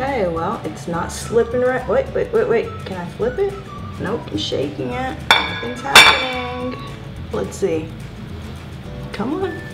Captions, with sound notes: It's not coming off, it's not slipping. Oh, wait wait, can I flip it? No. I'm shaking it. (clanking) Let's see, come on, it's sticking.